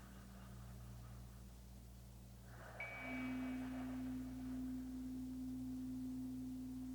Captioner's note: chimes ringing continues; slow breathing continues